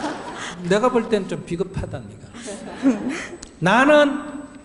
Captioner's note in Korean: 질문자와 청중 웃음; 질문자 웃음